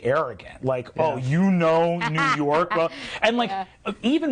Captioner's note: laughing